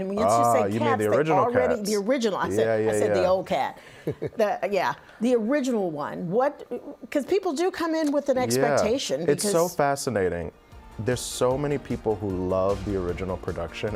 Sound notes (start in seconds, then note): 4.1 laughing